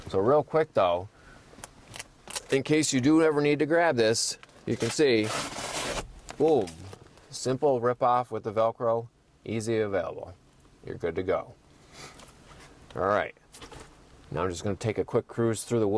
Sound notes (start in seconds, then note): 4.8 velcro tearing